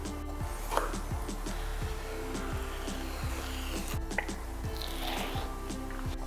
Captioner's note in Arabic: صوت سكين تقطع جلد السلمون